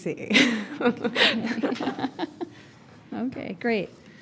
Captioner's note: chuckling